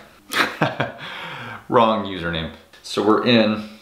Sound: laughs

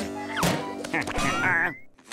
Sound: chuckles

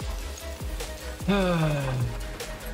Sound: sighs

